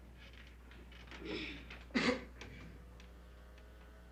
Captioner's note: coughing